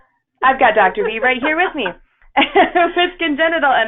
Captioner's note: laughs